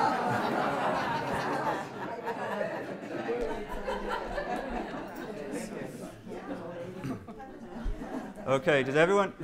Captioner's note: chatter